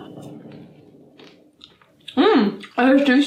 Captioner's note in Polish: chrup chrup